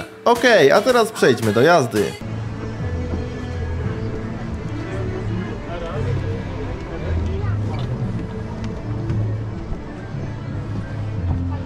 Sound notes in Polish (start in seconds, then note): 2.3 odgłosy jazdy